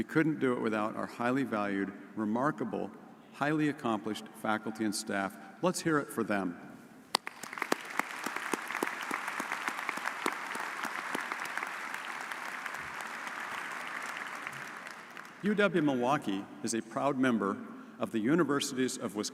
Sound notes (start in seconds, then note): 7.1 audience applauds